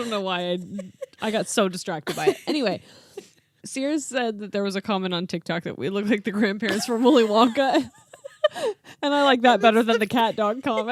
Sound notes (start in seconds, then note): 0.0 laughing; 6.7 laughing; 10.6 laughing